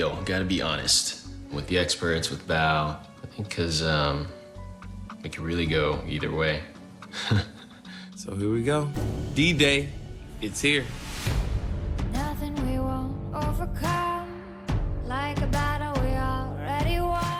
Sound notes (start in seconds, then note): 7.1 laughs dryly